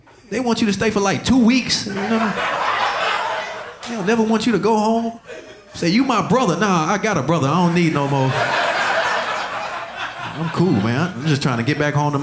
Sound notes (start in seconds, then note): 2.0 audience laughing; 8.6 audience laughing